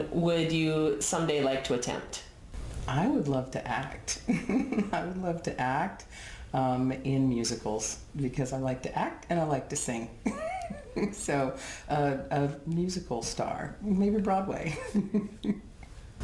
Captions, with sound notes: would you someday like to attempt? - I would love to act. (laughs) I would love to act in musicals because I like to act and I like to sing. (laughs) So a musical star, maybe Broadway. (laughs)